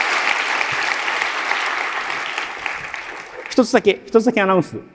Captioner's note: applause